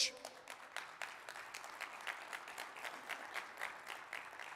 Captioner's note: audience clapping